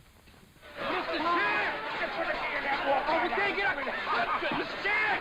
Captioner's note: yelling and chattering